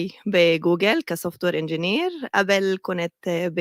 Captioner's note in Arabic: لغة أجنبية